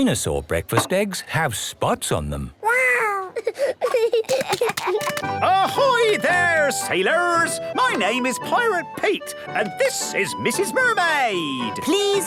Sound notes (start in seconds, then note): 3.2 giggling